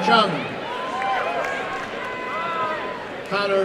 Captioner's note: applause and cheering